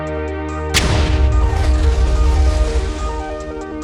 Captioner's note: explosion sounds